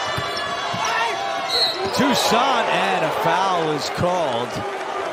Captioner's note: whistle